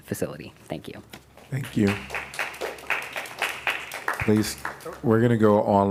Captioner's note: applause